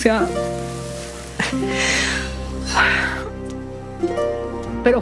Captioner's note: cries